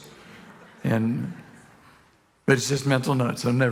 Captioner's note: congregation laughing